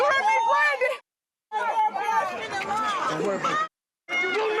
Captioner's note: crowd yelling